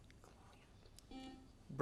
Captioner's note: whispers; buzzer sounds